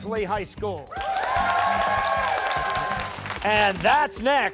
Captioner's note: cheers and applause